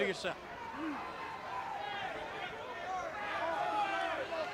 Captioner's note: crowd chatter